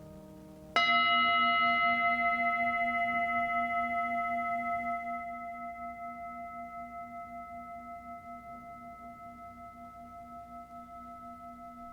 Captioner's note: singing bowl rings